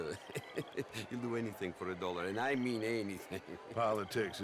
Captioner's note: laugh; laughs